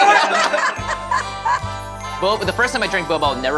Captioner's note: laughter